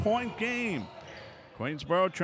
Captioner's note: ball pounding; yelling